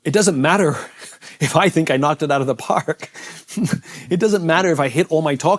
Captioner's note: chuckles